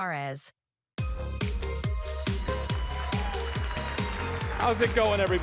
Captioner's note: applause